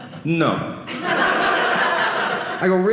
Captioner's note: audience laughing